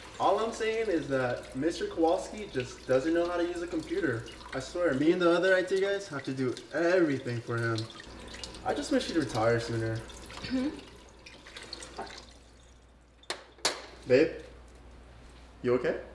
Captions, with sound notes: All I'm saying is that, Mr. Kowalski just doesn't know how to use a computer. I swear, me the other IT guys have to do everything for him. I just wish he'd retire sooner. - Hm. [faucet turns off] - Babe? You okay?